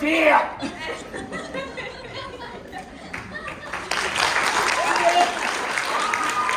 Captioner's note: applause